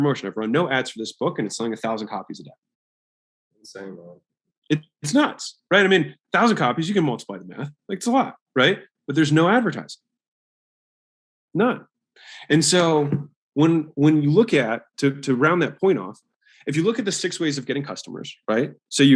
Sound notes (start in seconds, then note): 3.7 speaks faintly